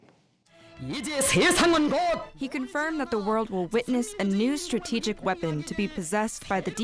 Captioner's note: through translator